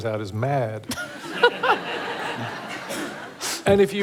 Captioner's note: laughter